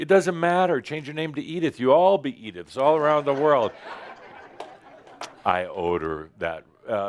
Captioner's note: laughter